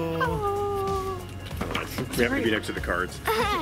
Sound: sighing

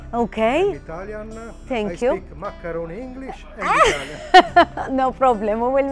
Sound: laughs

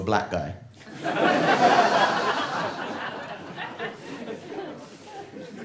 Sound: audience laughing

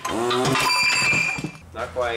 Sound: engine crashes

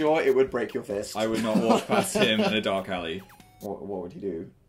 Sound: laughs

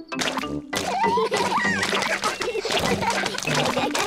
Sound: all laugh

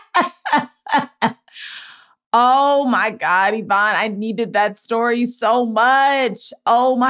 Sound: laughing

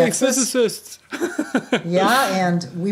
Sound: chuckle

